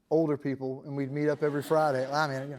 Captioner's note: laughter